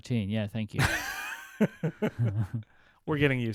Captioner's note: laughing